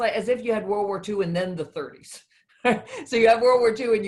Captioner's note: chuckles